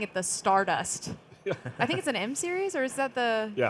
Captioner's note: panelists chuckling